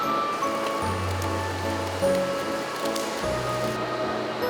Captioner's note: flatter flapping